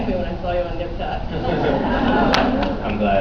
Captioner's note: laughs